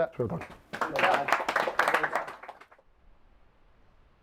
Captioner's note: team clapping